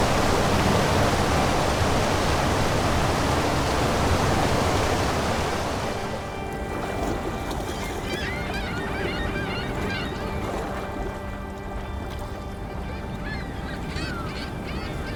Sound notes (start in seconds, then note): 7.3 dramatic music; 7.3 water lapping